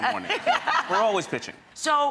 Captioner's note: Rachael laughs